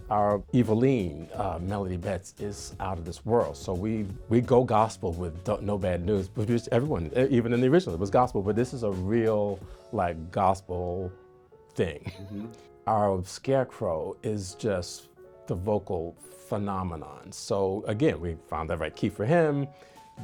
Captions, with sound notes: Our Evilene, Melody Betts, is out of this world. So we go gospel with "No Bad News." Produced everyone, even in the original, it was gospel. But this is a real like, gospel thing. (chuckles) Our Scarecrow is just the vocal phenomenon. So again, we found the right key for him.